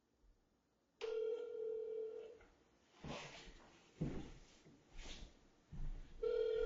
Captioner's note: phone ringing on the other end